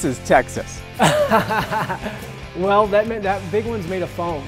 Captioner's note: laughter